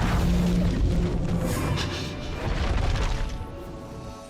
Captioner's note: thunder